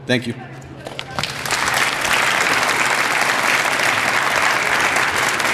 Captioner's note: applause